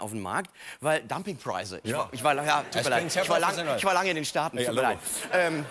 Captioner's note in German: Mit amerikanischem Akzent